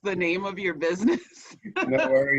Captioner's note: laughs